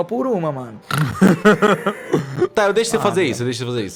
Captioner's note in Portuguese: Risos